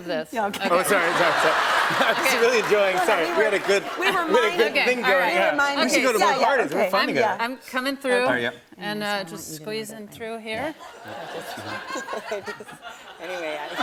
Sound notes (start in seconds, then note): 0.6 laughter